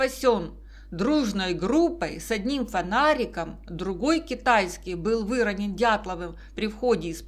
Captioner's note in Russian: китайский